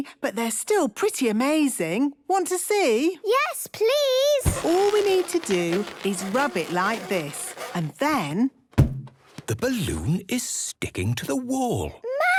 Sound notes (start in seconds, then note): 4.4 balloon rubbing; 8.4 balloon echoes